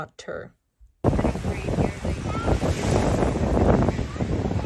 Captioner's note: wind blows